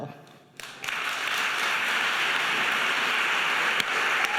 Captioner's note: audience applauding